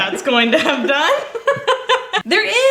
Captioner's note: laughing